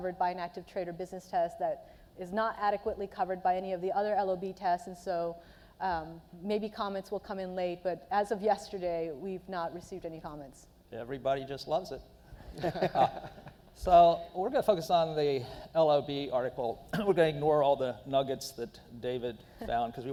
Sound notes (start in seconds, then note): 12.4 laughing